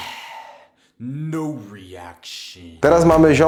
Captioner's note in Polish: westchnienie